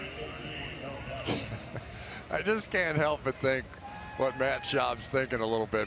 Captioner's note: laughs